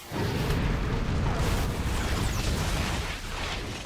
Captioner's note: big, Massive Fire Ball Explosion Noises